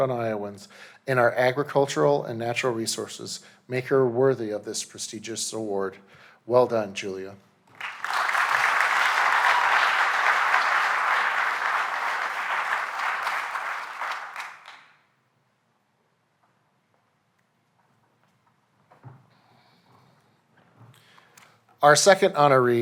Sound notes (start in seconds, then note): 7.7 applause